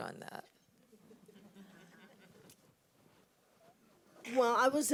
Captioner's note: audience laughs